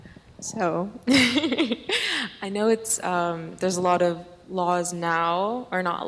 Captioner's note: laughs